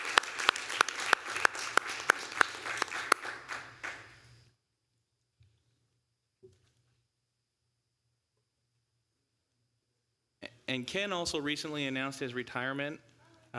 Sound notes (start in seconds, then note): 0.0 applause